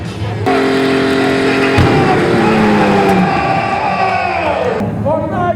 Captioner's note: car engine roaring; everyone yelling